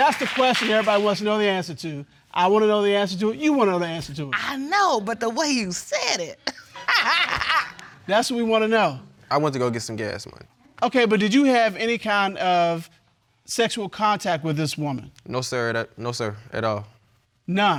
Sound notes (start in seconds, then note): 6.5 laughs